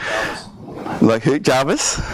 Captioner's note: voiceover